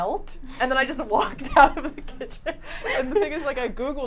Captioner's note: laughs